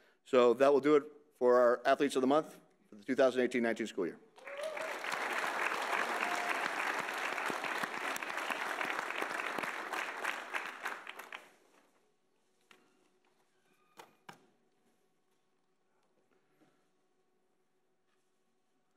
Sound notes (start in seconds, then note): 4.4 audience applauding